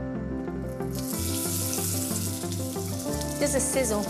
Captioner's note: pan sizzles